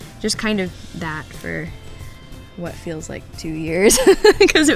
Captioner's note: laughs